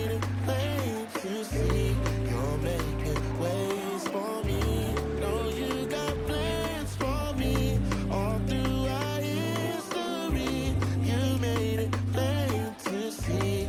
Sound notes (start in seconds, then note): 3.1 cheering and applause